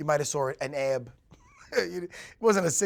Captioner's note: chuckles